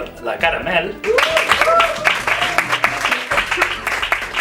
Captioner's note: applause